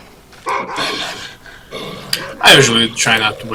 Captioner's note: barks and roars